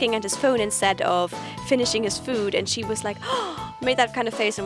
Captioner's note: gasp